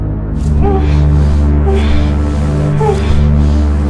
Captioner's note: woman whimpering